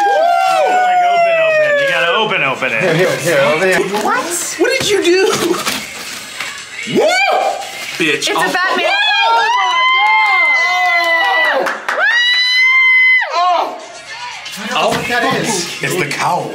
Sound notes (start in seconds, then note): 0.0 people cheering; 6.9 person cheering; 7.3 paper tearing; 8.6 people cheering